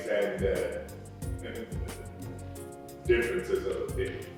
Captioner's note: chuckles